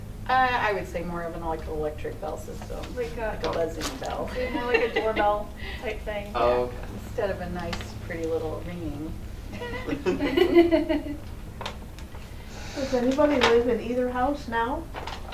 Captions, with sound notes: I would say more of an electric bell system, like it wasn't a bell. Like a, was it more like a doorbell type thing? Instead of a nice, pretty little ringing. [laughter]. Oh! Does anybody live in either house now?